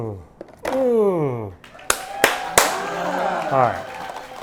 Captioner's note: crowd applauding